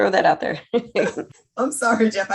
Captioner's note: laughs